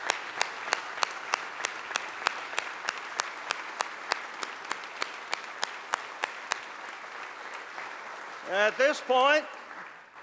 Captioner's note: applause